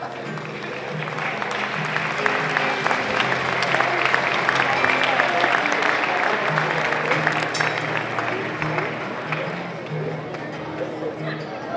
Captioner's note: applause